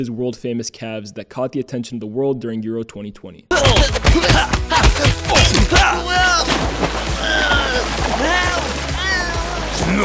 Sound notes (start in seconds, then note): 3.5 grunting